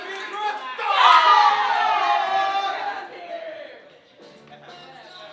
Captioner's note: group cheering